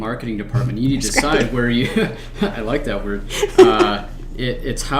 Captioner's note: laughs